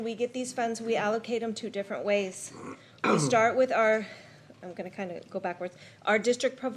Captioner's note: clears throat